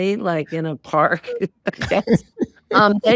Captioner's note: laughing